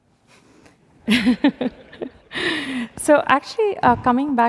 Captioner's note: laughter